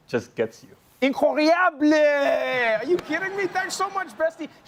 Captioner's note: french